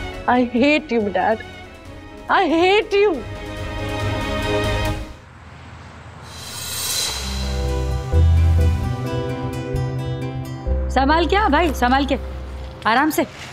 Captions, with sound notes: I hate you, Dad! I hate you! - [traffic noise] - [sweeping music] [suspenseful music] My friend, please be careful. Be careful!